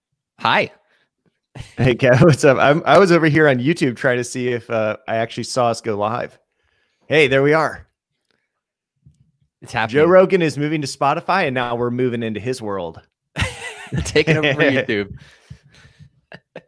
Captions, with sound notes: - Hi. - Hey, Kev, what's up? I was over here on YouTube trying to see if I actually saw us go live. Hey, there we are. - It's happening. - Joe Rogan is moving to Spotify and now we're moving into his world. (laughing) - Taking over YouTube.